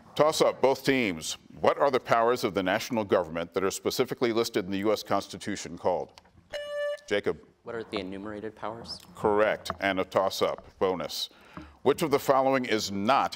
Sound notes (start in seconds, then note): 5.2 buzzer beeps